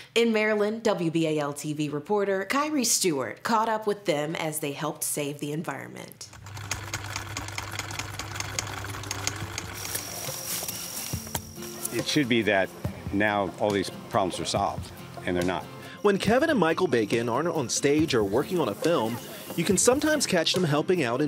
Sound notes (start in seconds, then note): 6.3 film reel rolling; 10.1 crickets chirping